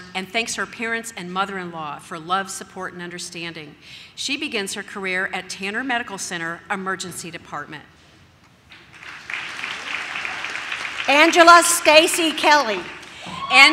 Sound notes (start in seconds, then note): 8.7 audience claps; 12.7 audience cheers